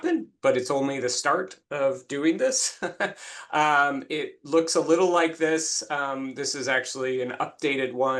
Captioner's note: laughs